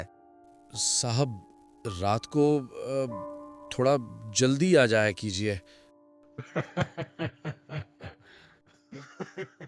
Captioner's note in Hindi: हंसी